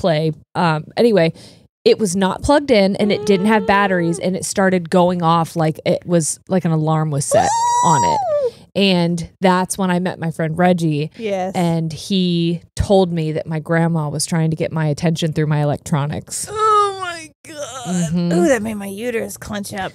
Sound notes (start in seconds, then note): 7.3 squeals